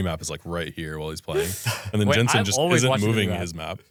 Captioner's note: laughs